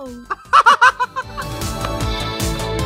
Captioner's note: Trixie guffaws